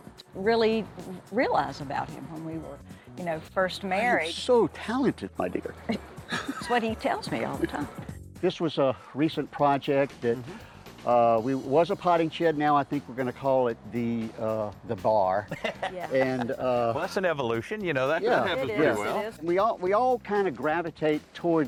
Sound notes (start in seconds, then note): 5.9 chuckling; 15.4 lipford laughing